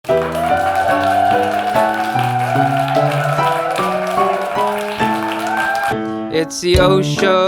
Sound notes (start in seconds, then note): 4.5 audience applauding; 4.5 upbeat music